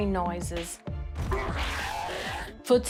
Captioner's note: eerie sounds